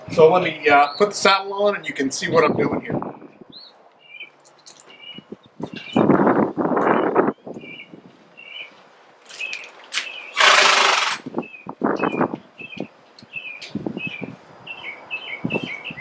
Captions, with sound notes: So let me put the saddle on and you can see what I'm doin' here. (birds twittering) (horse snorts)